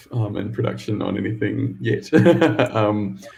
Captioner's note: laughs